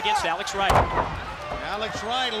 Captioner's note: body thudding